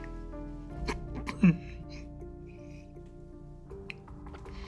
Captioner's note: sobs